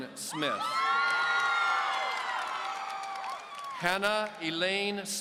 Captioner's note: audience cheering